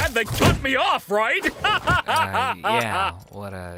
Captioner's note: laughing heartily